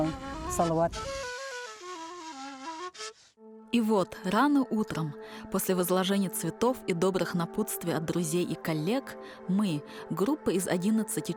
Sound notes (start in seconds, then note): 3.0 in Russian